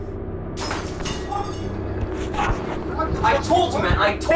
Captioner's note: shattering